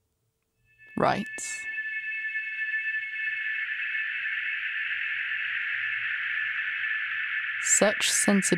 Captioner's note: wavering electronic tones